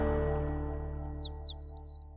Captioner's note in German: Vogelzwitschern